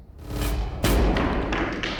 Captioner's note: slamming sounds